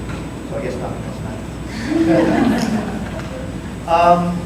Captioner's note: audience laughter